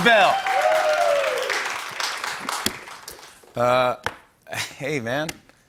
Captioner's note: cheers and applause